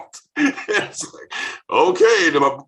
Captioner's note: laughing